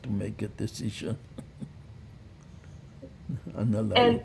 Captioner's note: laughing